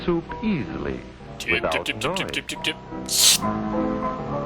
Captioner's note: slurp